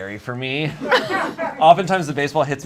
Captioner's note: audience laughs